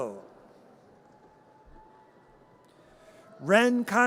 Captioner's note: audience cheers